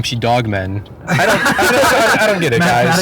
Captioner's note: all laughing